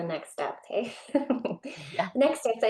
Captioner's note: chuckles